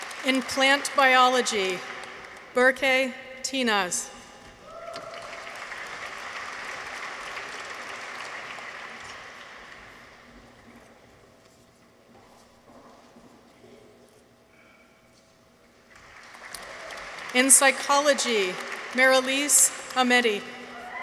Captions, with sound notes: In Plant Biology. Berke Tinaz. -(people cheer) -(audience applauds) In Psychology. Merelise Ametti.